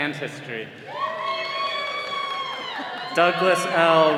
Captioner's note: all cheering